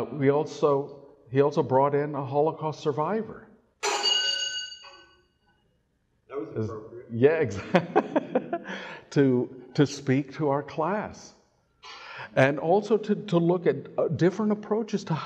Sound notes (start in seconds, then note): 3.8 metal clanging together; 7.4 laughs